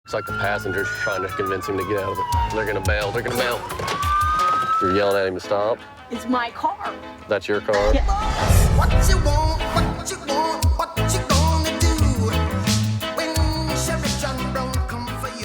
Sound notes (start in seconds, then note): 3.8 siren; 8.5 singing